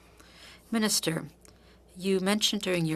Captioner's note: speaking French